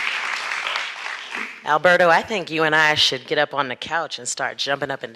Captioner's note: applause